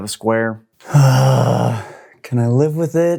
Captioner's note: frustrated sigh